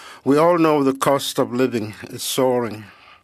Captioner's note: speaking French